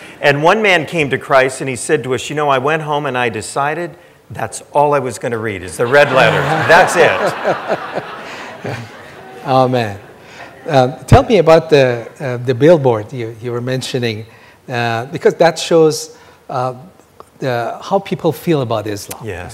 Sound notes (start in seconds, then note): 5.8 audience laughing